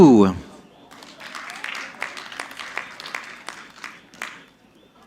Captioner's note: audience clapping